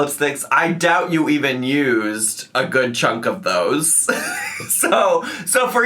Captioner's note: laughs